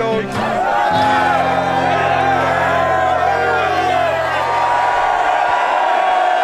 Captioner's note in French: acclamations